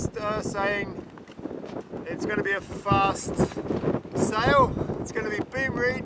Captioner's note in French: Beaucoup de vent